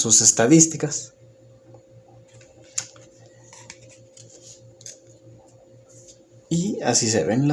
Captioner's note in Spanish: Silencio